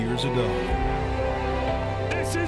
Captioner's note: crowd cheering